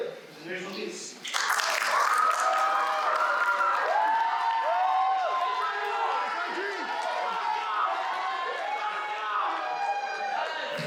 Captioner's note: applause